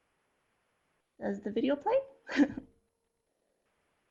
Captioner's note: laughs